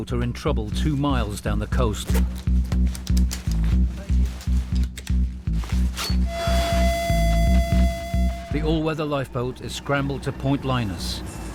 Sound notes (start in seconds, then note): 1.9 jacket clipping; 2.2 mysterious music; 5.9 charter squeals